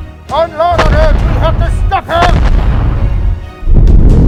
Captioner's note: guns firing